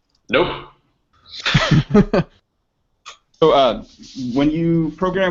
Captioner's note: laughing